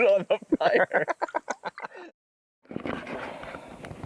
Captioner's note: laughs